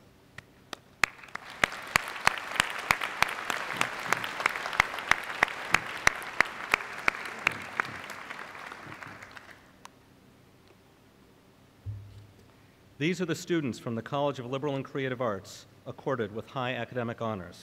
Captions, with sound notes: [ Applause ] These are the students from the College of Liberal and Creative Arts accorded with high academic honors.